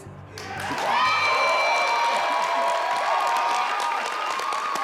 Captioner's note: audience cheers